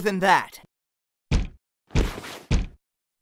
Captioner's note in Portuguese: Batidas na porta